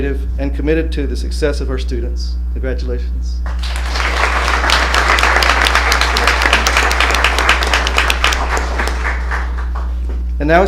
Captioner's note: applause